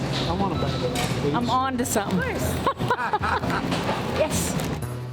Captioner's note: laughs